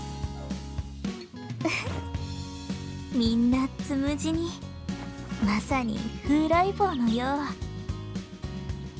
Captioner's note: giggle